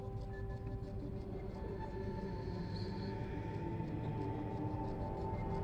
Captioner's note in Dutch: echoënde stem die spreekt